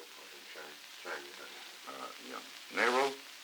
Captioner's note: Murrow, mumbling